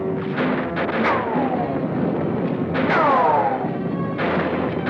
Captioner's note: gunshots blasting